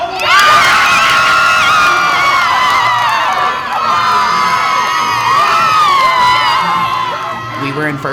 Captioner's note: cheering